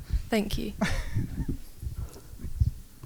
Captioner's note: laughter